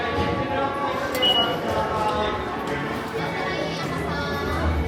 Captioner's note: sensor beeping